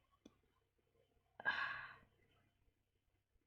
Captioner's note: sighs